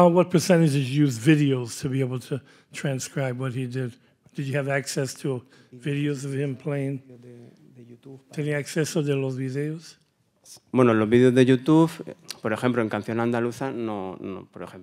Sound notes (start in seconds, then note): 7.6 speaking in Spanish; 8.8 audience member speaking in Spanish; 11.2 speaks in Spanish